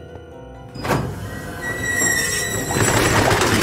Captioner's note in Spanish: Portón abriéndose